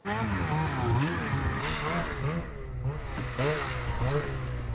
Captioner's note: snow mobile engine revving